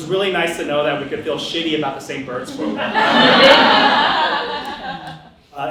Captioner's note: audience laughter